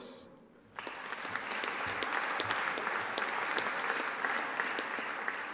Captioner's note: audience applauding